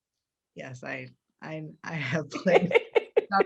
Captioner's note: laughs